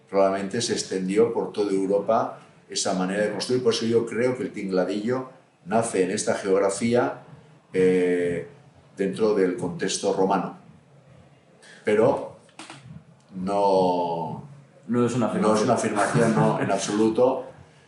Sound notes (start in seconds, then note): 16.0 risas